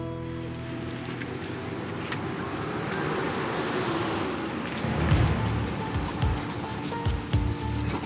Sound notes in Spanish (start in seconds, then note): 0.0 Ruido del coche llegando